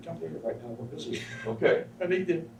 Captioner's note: laughs